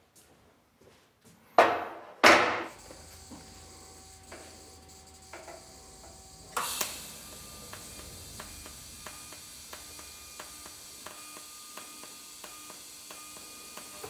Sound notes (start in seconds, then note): 2.5 soft whirring; 6.1 hissing; 8.2 whirring, occasional clicking